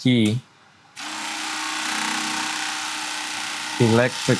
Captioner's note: blade whirring